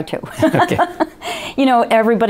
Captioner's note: laughs